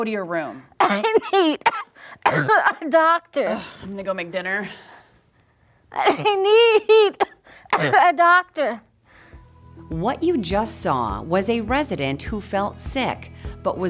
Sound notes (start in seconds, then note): 0.7 coughing; 4.1 sighs; 6.0 coughing